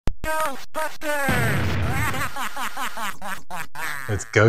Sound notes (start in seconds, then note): 0.5 synth Voice; 2.1 synth laughing